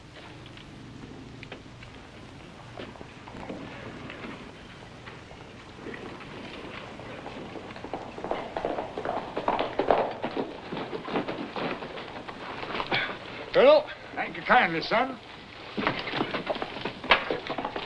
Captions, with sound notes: (hooves clopping) - Colonel. - Thank you kindly, son.